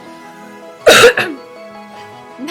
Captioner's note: cough